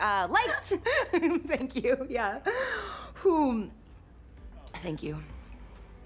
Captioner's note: cassie laughs; laughs; exhales deeply